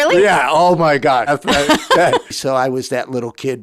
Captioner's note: laughing